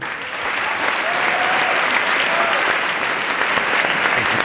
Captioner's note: applause